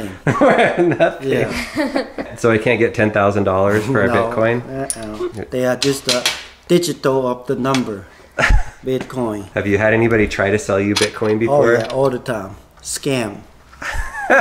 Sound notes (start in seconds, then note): 1.5 laughing; 13.8 laughs